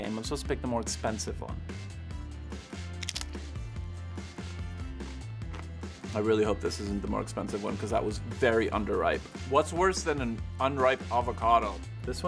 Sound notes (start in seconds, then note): 3.0 crunching